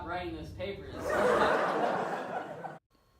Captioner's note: laughter